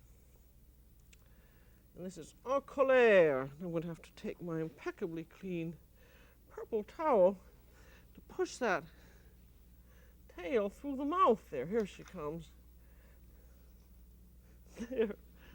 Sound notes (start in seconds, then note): 2.3 speaking french